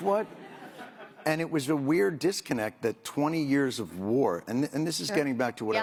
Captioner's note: laughter